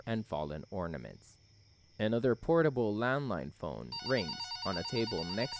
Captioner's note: another portable landline phone rings